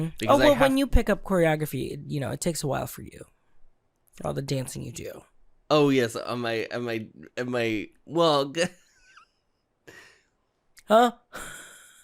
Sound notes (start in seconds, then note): 6.6 stuttering; 9.5 giggles